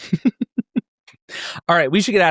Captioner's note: laughs